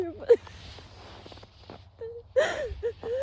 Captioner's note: snow crunches underfoot; coat rustles; sobs; sobs quietly